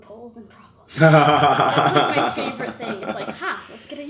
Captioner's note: laughs